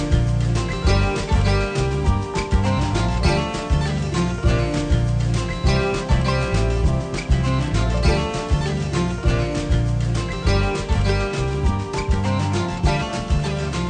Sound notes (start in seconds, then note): none